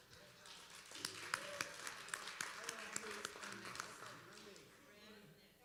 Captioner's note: applause